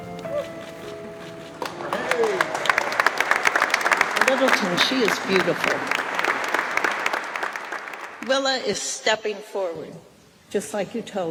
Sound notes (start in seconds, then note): 0.0 whimsical music continues; 4.0 all applaud; 6.9 applause